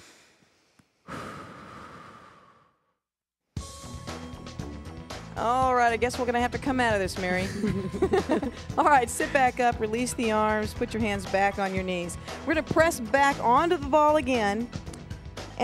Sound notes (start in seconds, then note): 1.0 sighs; 3.6 upbeat music; 7.4 both laugh